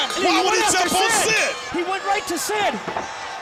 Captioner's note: bell ringing